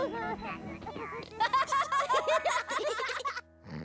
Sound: laughing and giggling

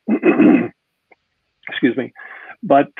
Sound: clears throat

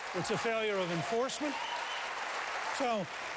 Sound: applause

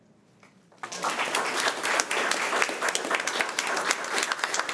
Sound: crowd clapping

